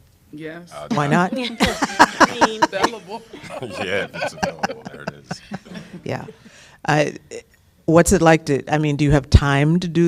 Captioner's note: laughter